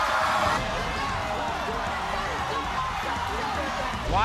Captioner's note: screaming; audience cheers